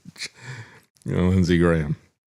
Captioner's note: laughs